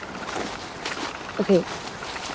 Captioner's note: footsteps crunching